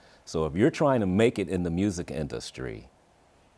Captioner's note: none